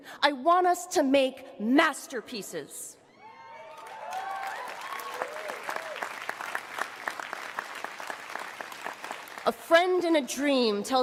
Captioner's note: cheering and applause